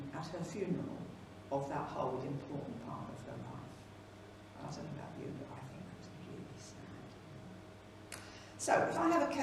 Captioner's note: quietly